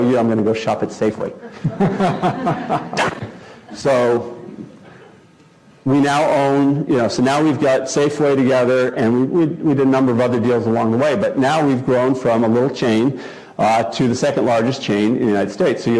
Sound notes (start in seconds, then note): 1.4 laugh